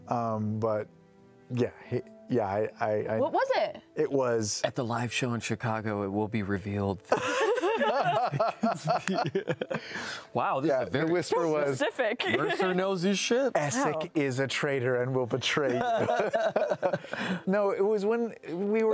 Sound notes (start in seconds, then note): 15.7 laughing